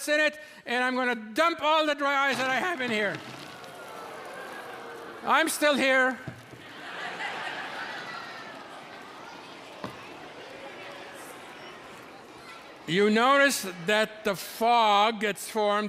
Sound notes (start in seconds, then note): 3.2 audience oohing; 6.4 audience laughing; 8.9 audience murmuring